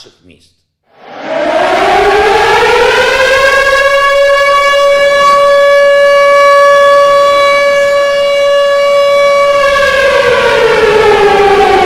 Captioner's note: siren